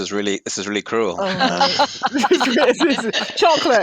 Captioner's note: laughter